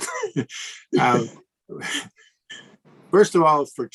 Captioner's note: chuckles